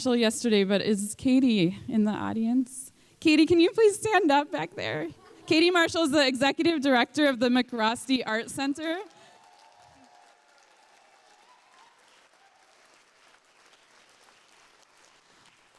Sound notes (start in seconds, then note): 8.8 applause